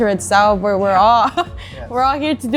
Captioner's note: laughs